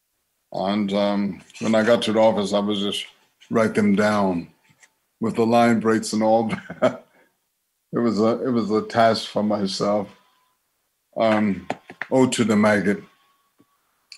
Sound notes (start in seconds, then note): 6.4 chuckles